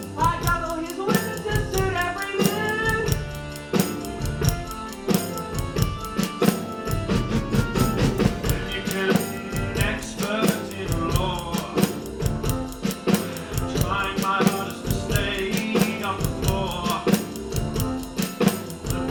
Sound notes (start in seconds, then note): none